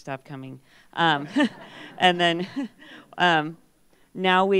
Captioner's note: laughter